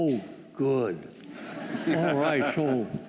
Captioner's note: laughter